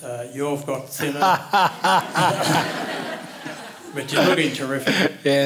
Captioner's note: laughter